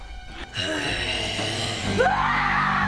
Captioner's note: growling; screaming